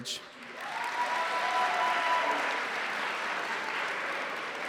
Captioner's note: cheering